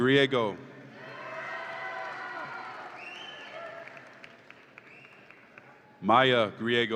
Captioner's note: audience applauds and cheers